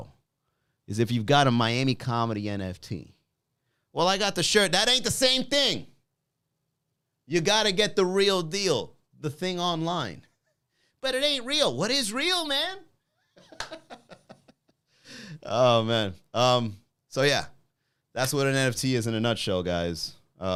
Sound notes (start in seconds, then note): 13.3 laughing